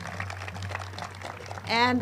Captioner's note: group claps